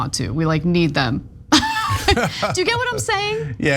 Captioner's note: laugh